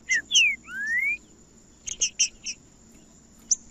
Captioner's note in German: trinca ferro cantando